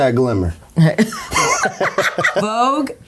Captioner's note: laughs